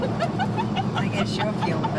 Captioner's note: laughing